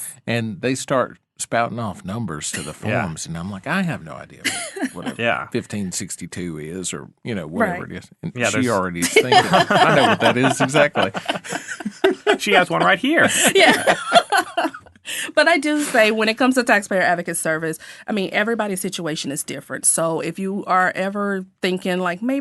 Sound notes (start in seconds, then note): 4.3 laughing; 11.0 all laughing; 14.5 laughing